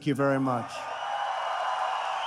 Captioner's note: applause